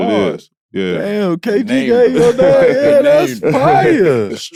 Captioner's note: laughs